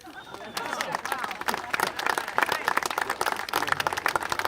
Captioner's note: congregation applaud